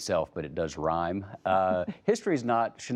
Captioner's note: laughter